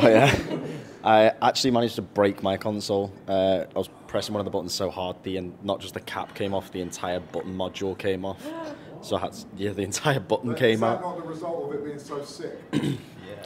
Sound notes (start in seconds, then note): 8.4 team member gasps